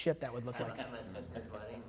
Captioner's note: laughing